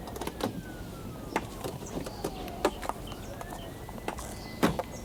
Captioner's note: sirens blaring